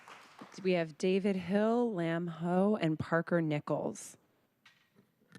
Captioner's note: applause